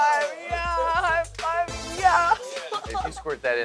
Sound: chuckles

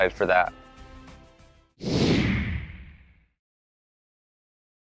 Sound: whoosh

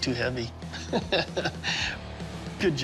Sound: chuckles

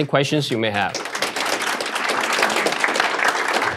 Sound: applause

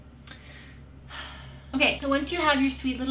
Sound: sighs

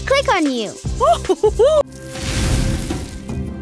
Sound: chuckling

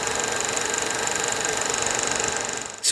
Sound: machine whirring

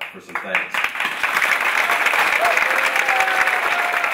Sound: applauding

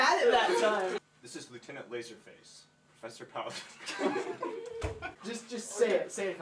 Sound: chuckles

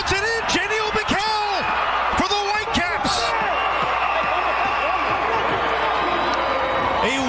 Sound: applause; cheering and Applause

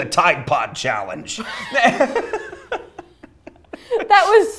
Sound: laughter

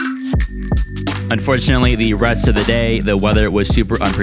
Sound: voiceover

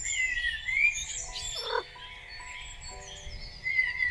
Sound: Milo purrs

